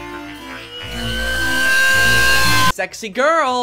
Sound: screaming in pain

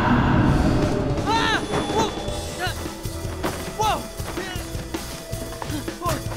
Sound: Ricky screaming

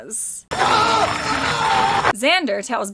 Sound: screaming

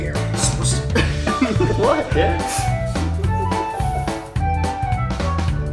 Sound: laughing

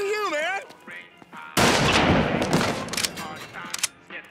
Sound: gun fires

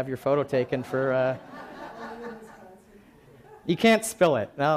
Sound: laughing

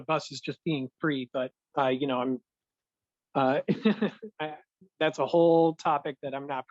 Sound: laughter

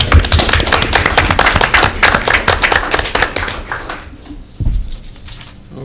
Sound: applause

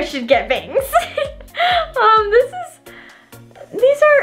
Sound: laughing

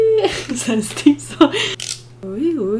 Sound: laughs

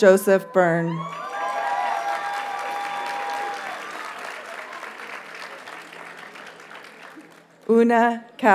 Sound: audience cheers and applauds

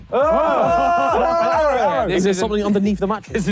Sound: group exclaiming

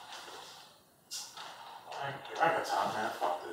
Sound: sucks teeth

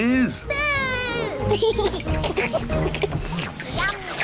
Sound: all slurp

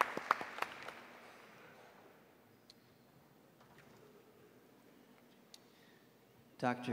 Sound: applause

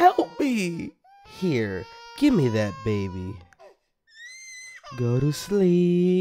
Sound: crying more

